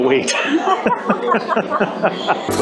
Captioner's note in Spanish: Riéndose